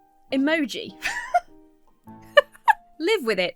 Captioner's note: giggles